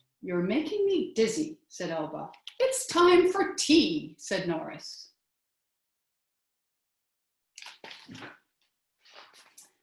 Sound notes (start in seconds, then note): 5.5 silence